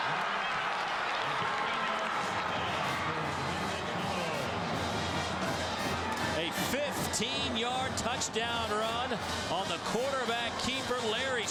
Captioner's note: crowd noise